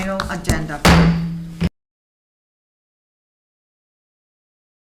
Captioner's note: gavel slams the block